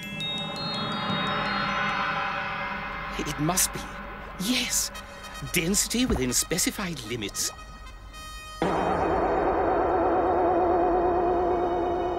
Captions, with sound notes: It must be... yes! Density within specified limits... [Boing!]